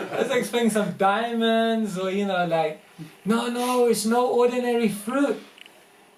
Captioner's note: crowd laughter